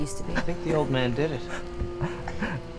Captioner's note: gasping